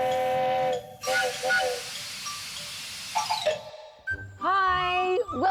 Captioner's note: train whistle blowing